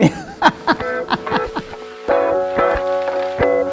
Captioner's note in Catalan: riure